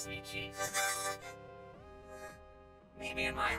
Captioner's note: whimpers